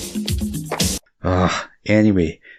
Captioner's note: clap